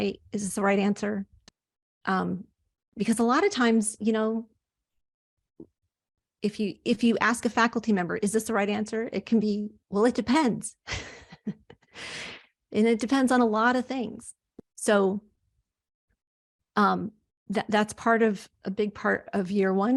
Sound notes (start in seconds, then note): 10.9 chuckles